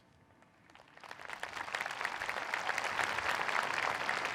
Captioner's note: audience applauding